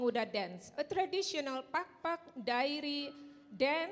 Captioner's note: speaking in Indonesian